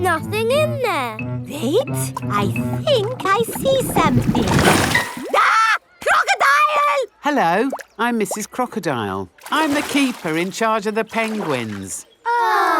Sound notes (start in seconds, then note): 5.3 screams